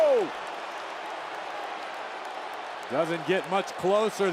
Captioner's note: crowd cheers and jeers